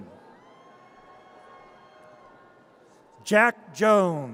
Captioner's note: audience cheers